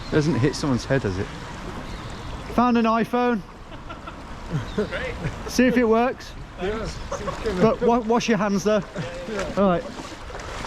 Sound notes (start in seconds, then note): 3.6 passerby laughing